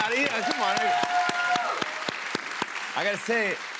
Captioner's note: cheers and applause